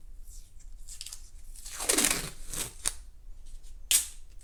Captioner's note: tape tearing